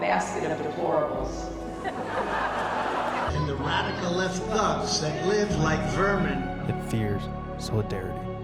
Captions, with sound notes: basket of deplorables. (audience laughing) And the radical left thugs that live like vermin.